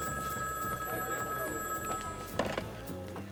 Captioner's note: phone ringing